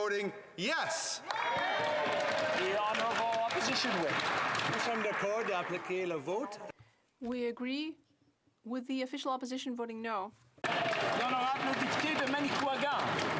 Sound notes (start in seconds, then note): 4.6 some Applause; 9.5 speaking in French